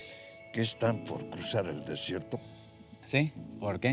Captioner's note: speaking spanish